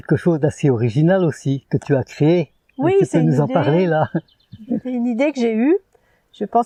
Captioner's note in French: rires